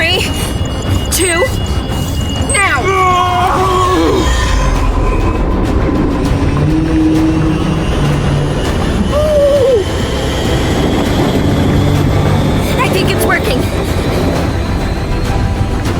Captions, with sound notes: - Okay, three, two. Now. (suspenseful music) (monster growling) I think it's working.